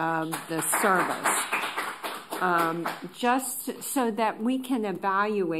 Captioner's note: applause